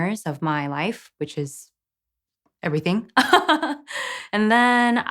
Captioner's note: laughs